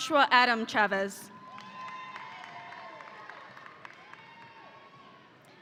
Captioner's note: audience applauding